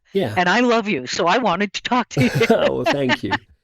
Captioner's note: laughs